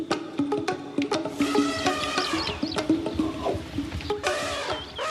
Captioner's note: elephant trumpeting